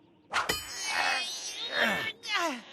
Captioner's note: straining